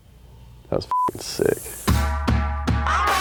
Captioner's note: beep